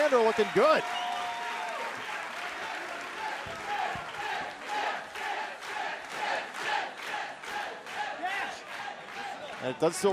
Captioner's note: crowd cheering